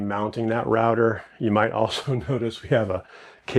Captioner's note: chuckles